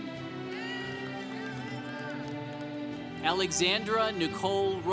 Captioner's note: congregation cheering